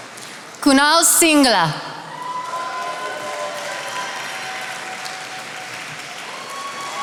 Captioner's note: attendees applauding